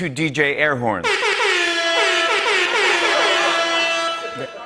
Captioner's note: Rasta air horns blaring; laughter